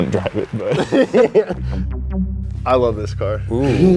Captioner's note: laughs